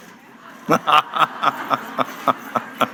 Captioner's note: laughter